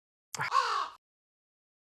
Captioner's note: caw